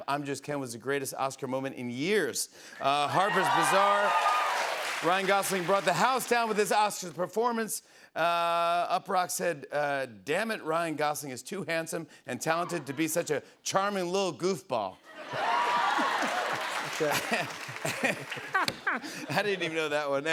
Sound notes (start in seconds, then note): 15.1 laughter, applause; 18.1 laughs